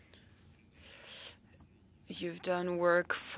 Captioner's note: speaking French